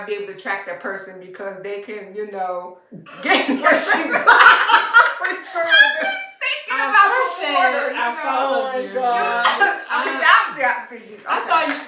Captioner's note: laughter